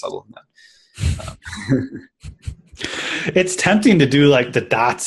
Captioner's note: laughs